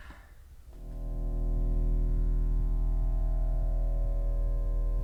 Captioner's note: droning noise